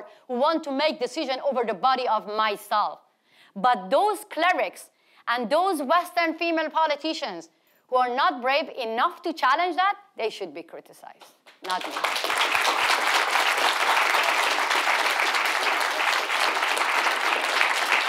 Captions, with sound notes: who want to make decision over the body of myself. But those clerics and those Western female politicians who are not brave enough to challenge that they should be criticized, not me. (audience applauding)